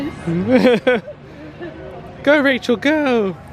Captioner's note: laughs